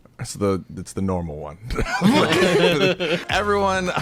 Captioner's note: everyone laughing